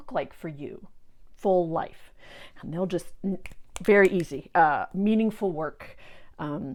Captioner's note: snapping